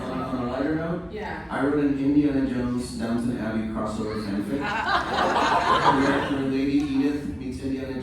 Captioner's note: laughter